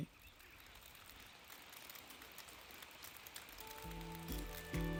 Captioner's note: sound of downpour of rain